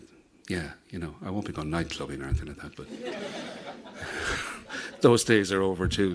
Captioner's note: audience laughs